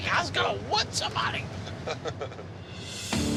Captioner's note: laughs